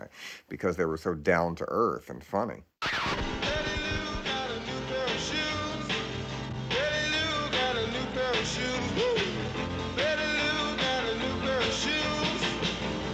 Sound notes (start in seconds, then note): 2.8 needle scratches